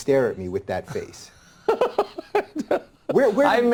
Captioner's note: Tucker laughs